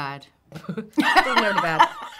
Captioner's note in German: lachen